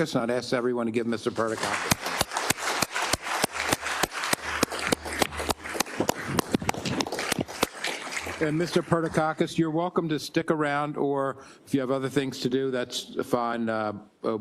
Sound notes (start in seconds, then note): 1.2 applause